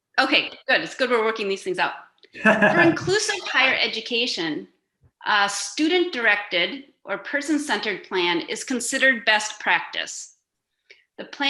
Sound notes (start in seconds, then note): 2.3 laughing